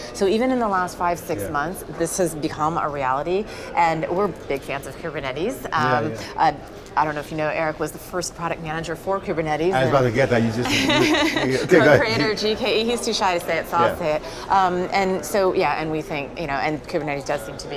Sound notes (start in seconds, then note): 10.6 laughs